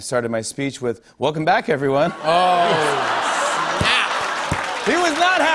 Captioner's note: laughter and applause